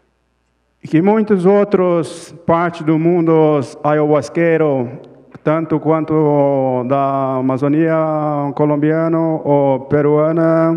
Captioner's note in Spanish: Ponente habla en portugués